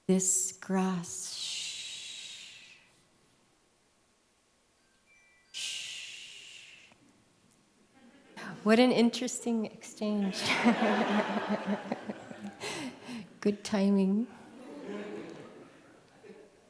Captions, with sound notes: This grass shhh. [MUSICAL CELLPHONE RING] Shhh." What an interesting exchange. [LAUGHTER] Good timing.